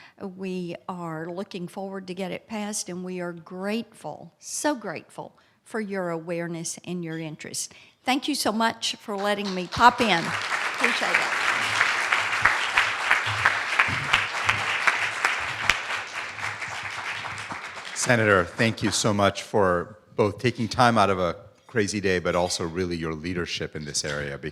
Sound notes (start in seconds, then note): 11.5 cheering